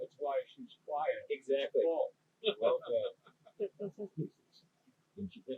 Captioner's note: laughs